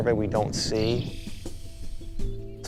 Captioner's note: bird calls